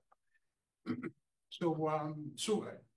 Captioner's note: coughs